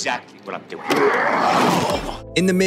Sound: growling

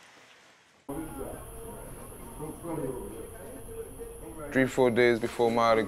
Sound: indistinct chattering

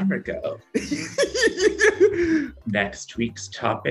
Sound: laughter

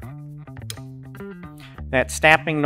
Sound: metal snapping

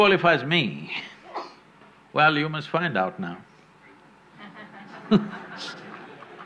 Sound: laughter/Applause

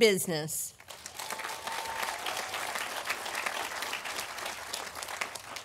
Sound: audience applauding

